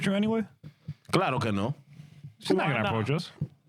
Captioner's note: speaking In Foreign Language